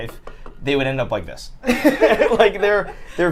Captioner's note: laughs